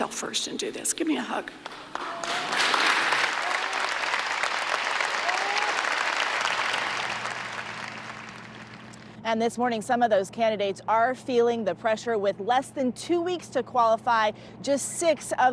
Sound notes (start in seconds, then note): 7.3 applause